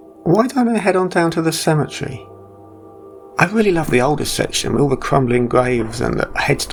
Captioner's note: none